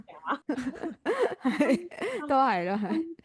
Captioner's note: laughs